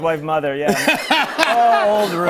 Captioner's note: laughter